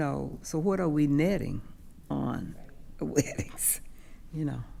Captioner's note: chuckles